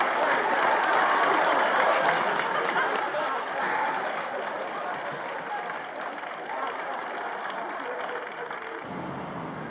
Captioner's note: audience clapping and laughing